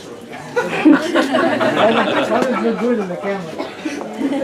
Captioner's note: laughter